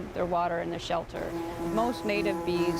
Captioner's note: buzzing